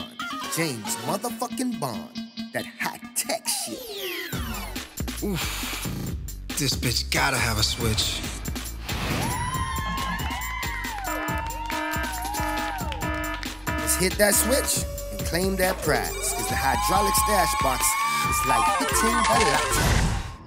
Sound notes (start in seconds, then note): 9.2 screams; 9.6 applause